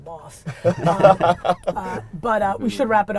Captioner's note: laughter